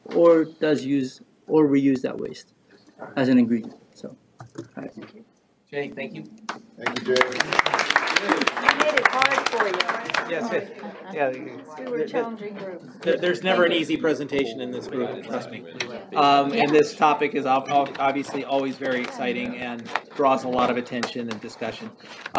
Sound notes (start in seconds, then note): 8.1 all chattering, cheering; 11.1 indistinct chattering